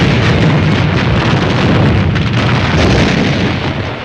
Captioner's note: explosions booming